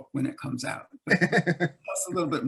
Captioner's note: laughs